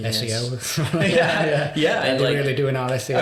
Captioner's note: laughing